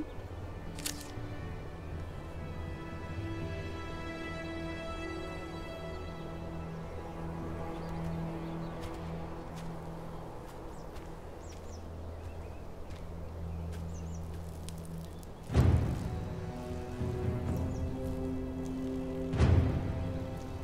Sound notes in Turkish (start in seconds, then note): 0.7 Isırma sesi; 10.1 Adım sesleri